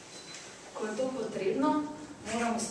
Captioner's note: non-english speech